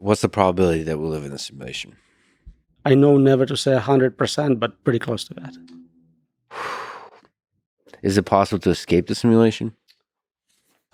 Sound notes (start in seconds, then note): 6.5 Lex sighing